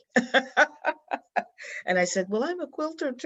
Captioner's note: laughs